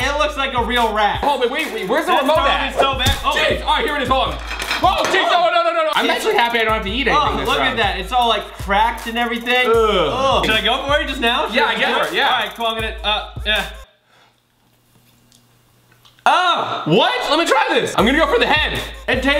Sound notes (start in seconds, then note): 13.1 gummy chewing